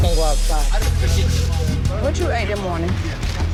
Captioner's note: people speaking indistinct